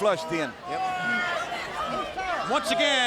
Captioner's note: crowd chattering